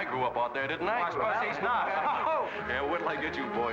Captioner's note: excited chatter